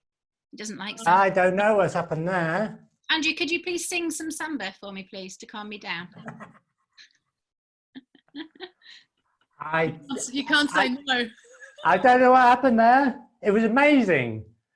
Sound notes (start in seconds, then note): 8.0 laughing